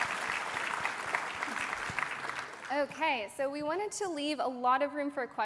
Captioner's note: applause